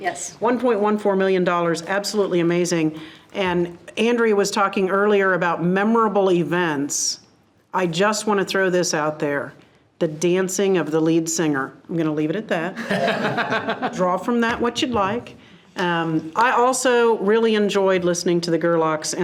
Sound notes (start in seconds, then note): 12.8 board members laugh